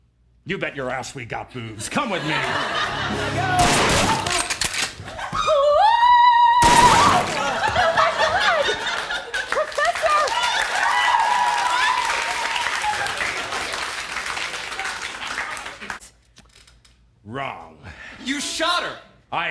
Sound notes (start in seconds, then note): 3.6 bang; 6.5 sing/scream and then BANG